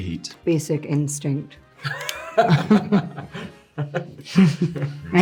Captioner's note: Jonathan laughing